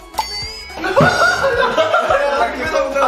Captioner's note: powerful sneer